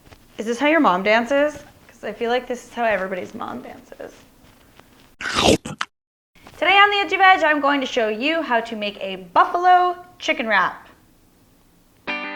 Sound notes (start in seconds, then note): 5.2 gulping